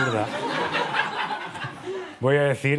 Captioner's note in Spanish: Risas